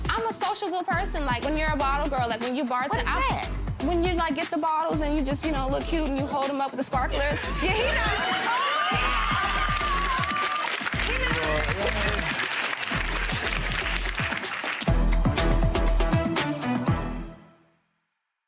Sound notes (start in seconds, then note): 7.1 gallery laughs; 7.9 gallery applauds; 12.0 applause continues; 15.0 upbeat theme music